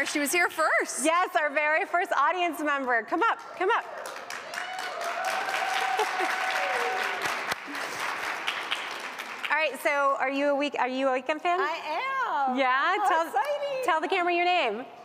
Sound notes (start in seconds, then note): 7.0 cheers and applause